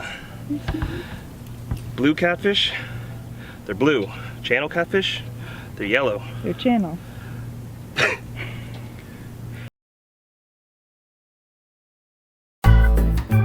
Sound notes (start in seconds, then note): 7.9 laughs